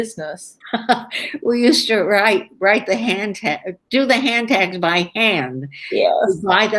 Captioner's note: laughs